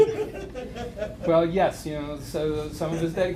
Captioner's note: laughter